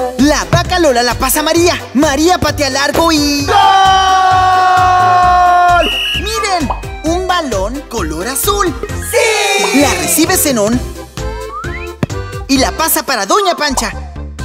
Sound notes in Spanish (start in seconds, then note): 5.6 Sonido de silbato